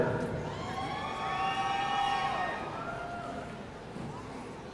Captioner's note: audience cheering